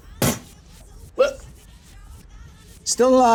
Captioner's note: imitating explosion